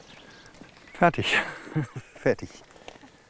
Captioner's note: laughs